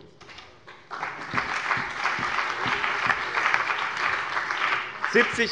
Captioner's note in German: Beifall bei dem BÜNDNIS 90/DIE GRÜNEN und der CDU